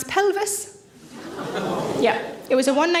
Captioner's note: audience groan